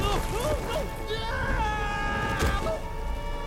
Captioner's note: scream